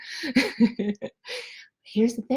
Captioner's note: laughs